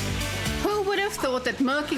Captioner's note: narrating